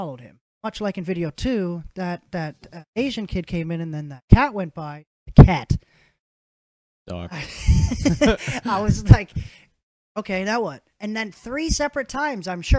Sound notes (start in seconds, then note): 7.3 innocent and Guilty Laugh